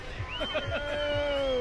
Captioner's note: chuckles